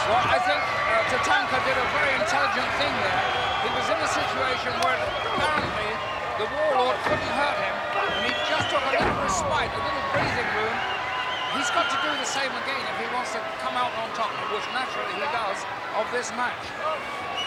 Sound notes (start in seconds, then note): 4.5 blows thudding